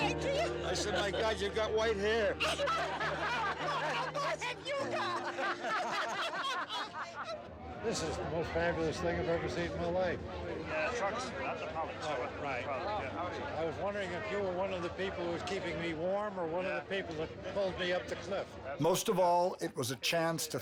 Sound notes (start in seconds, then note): 4.0 laughter; 6.7 laughter